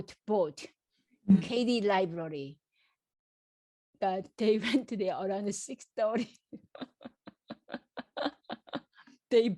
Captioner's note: laughs